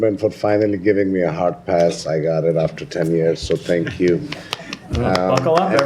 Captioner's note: laughter and applause